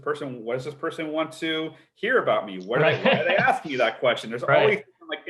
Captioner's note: laughs